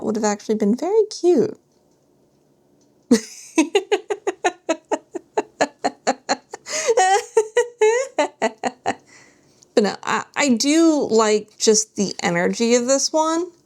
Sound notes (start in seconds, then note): 3.1 laughter